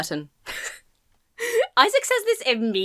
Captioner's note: laughs breathlessly